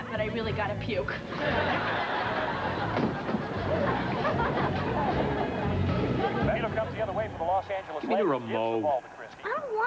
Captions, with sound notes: [BASKETBALL GAME PLAYS] GIVE ME THE REMOTE.